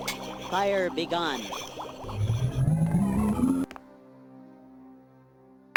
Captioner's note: mystical tinkling